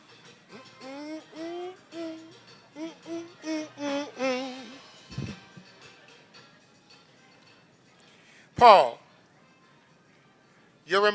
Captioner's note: humming